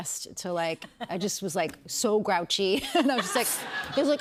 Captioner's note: laughter